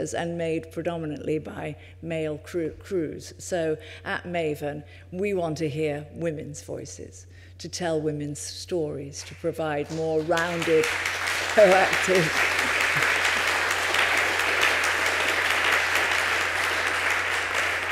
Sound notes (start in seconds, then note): 12.1 applause